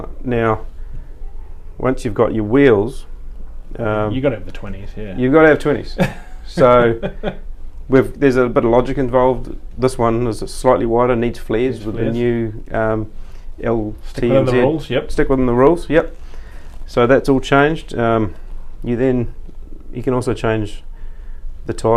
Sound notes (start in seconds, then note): 5.9 laughing